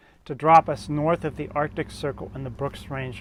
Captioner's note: plane engine roars